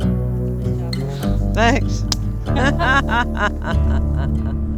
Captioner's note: laughs